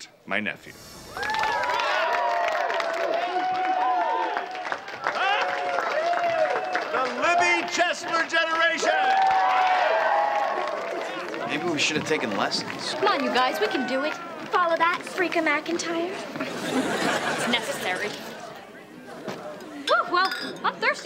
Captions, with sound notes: MY NEPHEW. THE LIBBY CHESSLER GENERATION! (cheering) MAYBE WE SHOULD HAVE TAKEN LESSONS. COME ON, WE CAN DO IT. FOLLOW THAT, FREAKA McENTIRE. IT'S NECESSARY. WHEW! WELL, I'M THIRSTY.